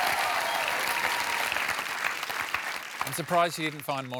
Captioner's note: cheering